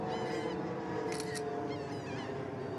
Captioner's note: camera clicking